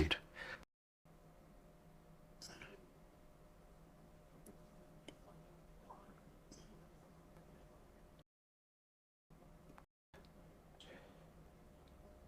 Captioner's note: silence